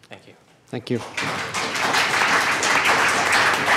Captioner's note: applause